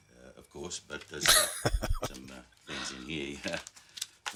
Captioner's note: chuckling